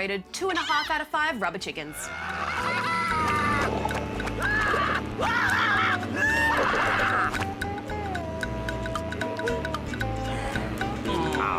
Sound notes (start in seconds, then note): 2.2 screams